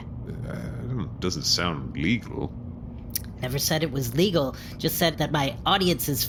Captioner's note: doubtful sound